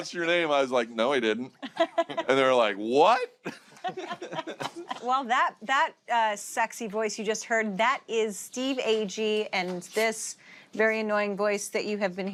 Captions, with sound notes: -I was like, "No, he didn't." -(LAUGHTER) And they were like, "What?" (LAUGHTER CONTINUES) Well, that sexy voice you just heard, that is Steve Agee, and this very annoying voice that you have been hearing